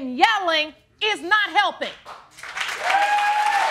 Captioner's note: audience cheering